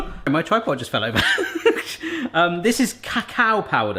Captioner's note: laughs